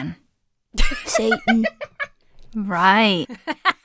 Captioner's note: laughs; laughs